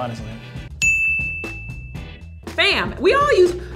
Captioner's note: dings